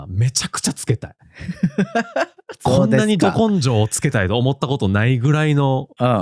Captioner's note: laughs